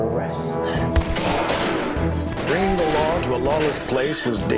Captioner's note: gunshots